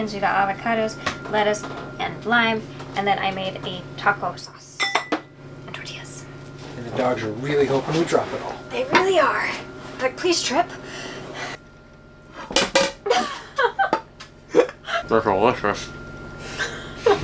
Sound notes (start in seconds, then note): 12.5 plate clatters; 13.0 laughs